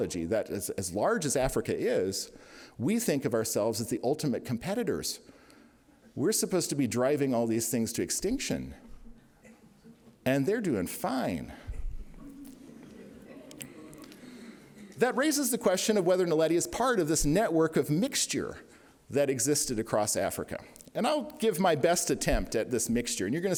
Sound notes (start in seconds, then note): 12.0 chuckling